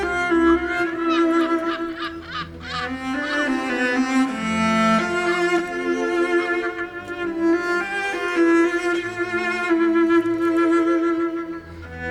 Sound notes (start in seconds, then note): 0.8 seagull squawk; 4.3 classical music playing